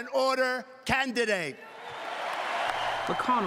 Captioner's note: cheering and applause